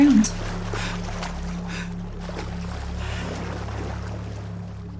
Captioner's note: woman gasping